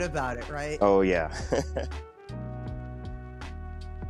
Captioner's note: chuckles